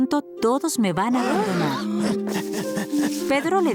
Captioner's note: gasps